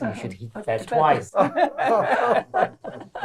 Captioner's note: all laugh